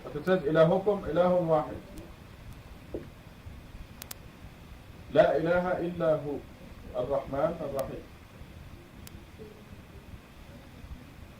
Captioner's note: foreign Language